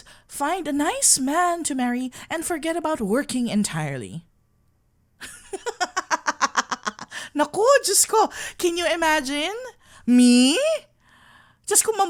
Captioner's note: laughing